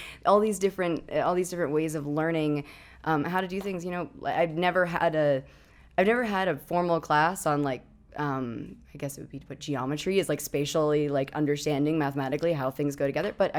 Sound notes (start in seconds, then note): none